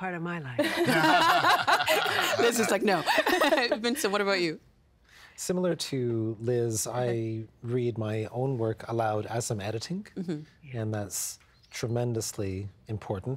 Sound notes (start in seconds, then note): 0.6 all laughing